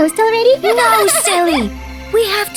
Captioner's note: Mila giggles